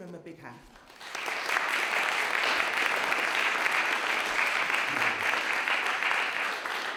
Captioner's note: applause